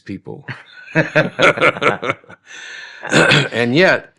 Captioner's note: laughing